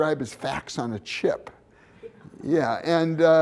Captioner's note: laughter